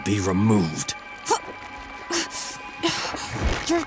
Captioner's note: groaning